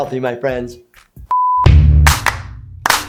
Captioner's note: screen beeps; upbeat music